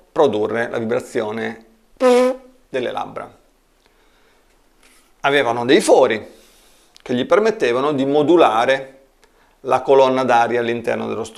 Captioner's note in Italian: buzz